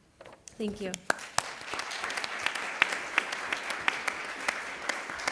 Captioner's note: applause